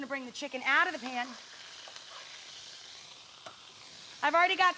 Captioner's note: chicken sizzling